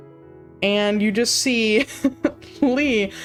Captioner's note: chuckles